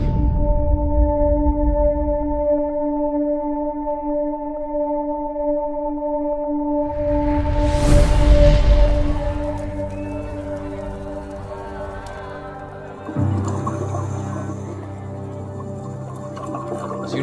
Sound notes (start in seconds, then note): 0.0 dramatic music; 7.4 fire crackling; 13.5 underwater bubbling